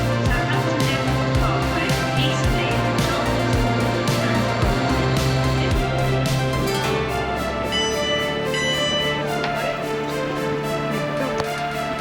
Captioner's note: upbeat music; bell ringing; whistle blowing